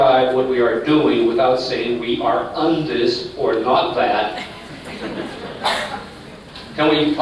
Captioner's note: laughter